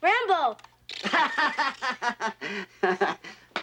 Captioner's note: laughs